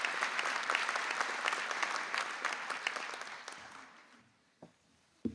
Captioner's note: applause